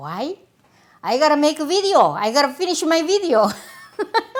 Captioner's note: laughs